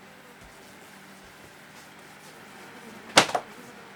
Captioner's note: fly buzzing